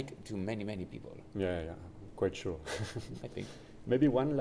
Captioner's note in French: rires